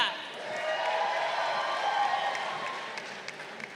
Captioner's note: crowd cheering